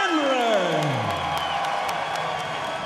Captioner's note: cheers and applause